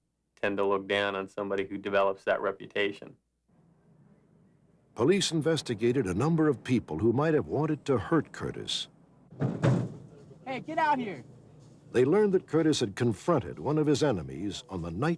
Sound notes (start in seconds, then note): 9.3 knocking